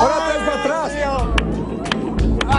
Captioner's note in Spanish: gritos